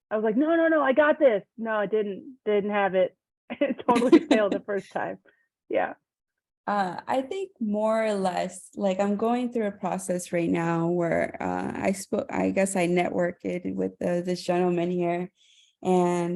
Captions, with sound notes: I was like, "No, no, no, I've got this." No, I didn't; didn't have it. [Laughter] I totally failed the first time; yes. >> I think more or less like I'm going through a process right now where I guess I networked it with this gentleman here.